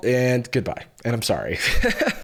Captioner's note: laughs